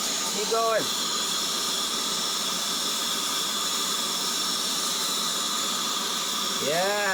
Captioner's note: air duster whirring